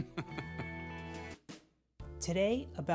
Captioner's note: laughs